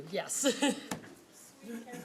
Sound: laughing

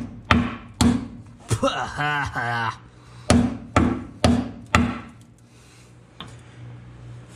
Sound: coughs

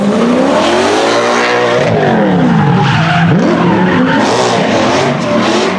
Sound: V8 Engine

